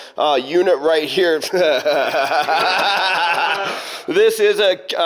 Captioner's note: laughing